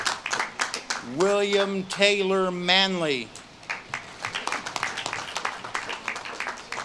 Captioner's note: audience claps and cheers